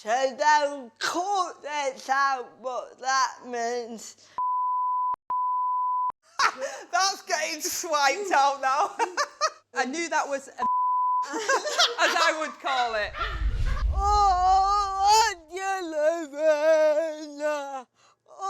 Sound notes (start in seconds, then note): 4.3 laughs; 9.1 laughs; 10.6 beep; 14.3 sings